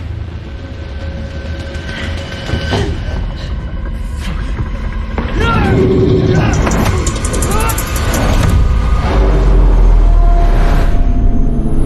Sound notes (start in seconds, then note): 5.2 yells and grunts